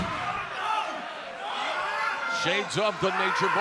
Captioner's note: shouting